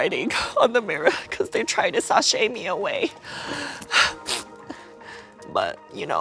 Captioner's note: whimpers